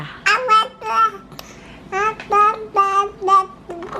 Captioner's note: baby babbling